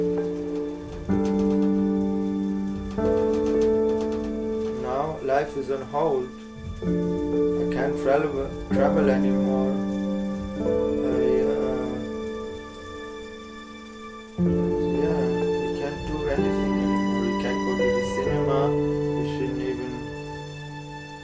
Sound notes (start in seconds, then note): 1.8 rain sounds